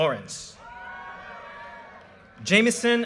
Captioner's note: audience cheers and applause